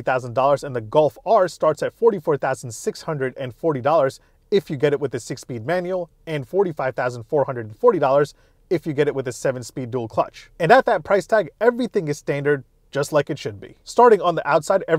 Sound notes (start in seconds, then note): none